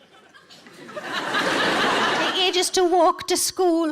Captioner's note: audience laughing